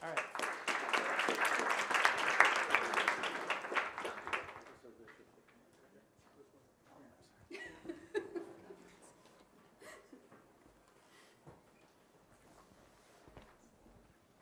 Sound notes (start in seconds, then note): 0.0 audience applauds; 5.0 man speaks softly; 7.5 laughs